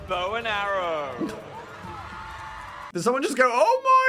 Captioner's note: audience cheering